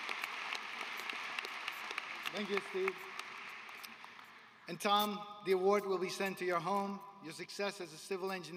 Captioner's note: applause